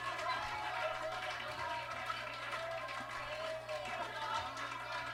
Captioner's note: Miz Cracker claps; audience claps